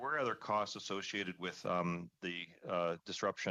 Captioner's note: speaking French